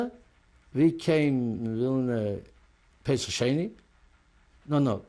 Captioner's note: non-english